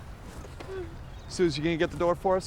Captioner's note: Suzy softly yawns